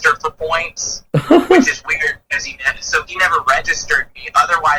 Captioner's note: laughs